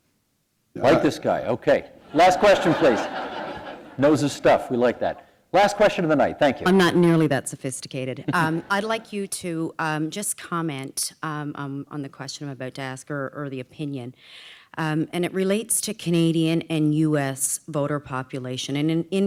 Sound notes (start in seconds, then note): 2.1 laughter; 9.1 chuckle